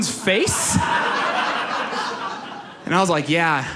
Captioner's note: audience laughs